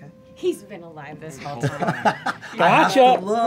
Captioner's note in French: rires